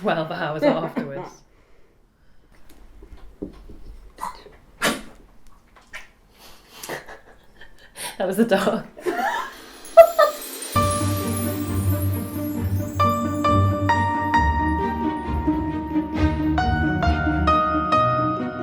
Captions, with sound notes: for like 12 hours afterwards. (dog coughs) That was the dog. (laughs) (spooky music)